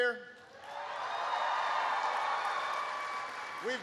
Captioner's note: applause